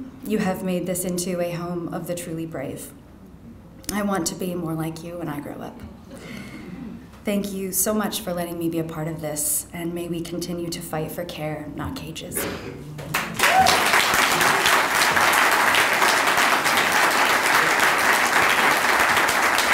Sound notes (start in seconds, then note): 13.0 audience applauding